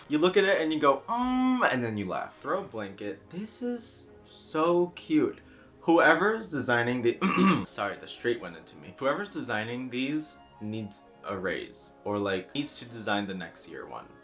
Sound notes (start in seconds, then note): 5.6 in slightly lower voice; 7.2 clears throat and goes back to normal